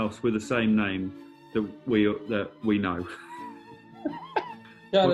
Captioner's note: chuckling